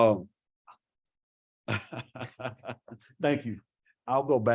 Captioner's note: laughs